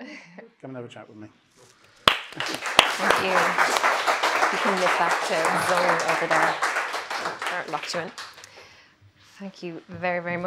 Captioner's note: applause